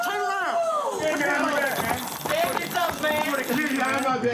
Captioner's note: yelling